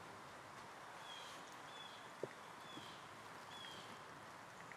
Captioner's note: birds chirping